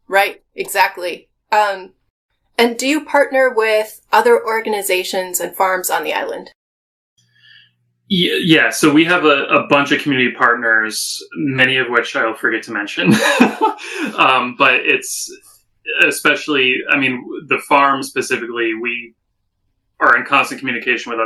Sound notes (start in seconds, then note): 13.0 laugh